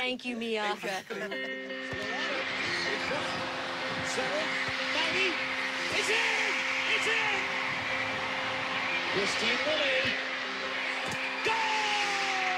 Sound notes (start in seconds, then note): 7.7 crowd cheering